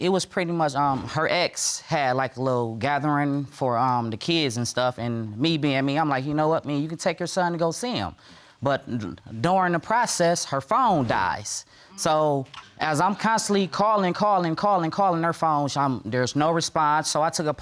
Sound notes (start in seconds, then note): none